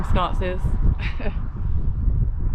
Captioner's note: chuckle